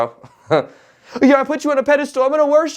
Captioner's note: chuckles